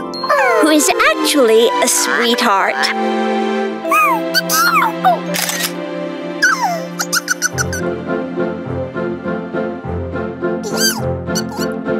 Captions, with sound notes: who is actually a sweetheart. [both chirping] [Little Yellow Chickadee chirps]